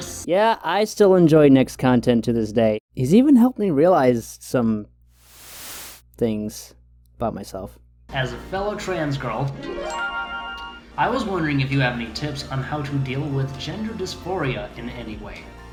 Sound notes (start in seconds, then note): 5.2 static fading in and out; 9.6 Hanna-Barbera harp sound effect